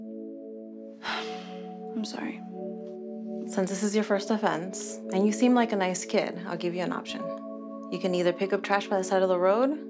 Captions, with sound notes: (sighing) I'm sorry. - Since this is your first offense and you seem like a nice kid, I'll give you an option. You can either pick up trash by the side of the road